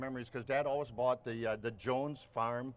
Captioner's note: none